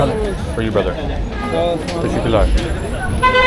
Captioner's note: speaking Turkish